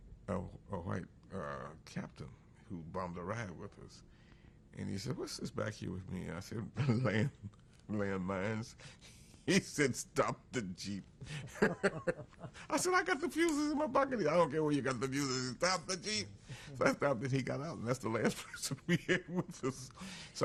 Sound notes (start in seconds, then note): 6.8 laughs; 11.2 laughter